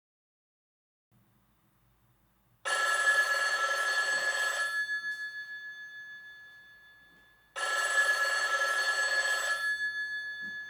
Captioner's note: telephone Ring